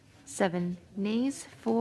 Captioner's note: speaking French